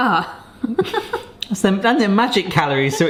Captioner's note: both laugh